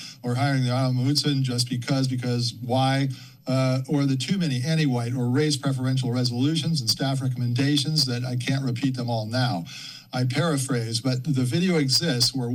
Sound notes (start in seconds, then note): none